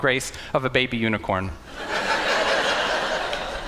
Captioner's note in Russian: Смех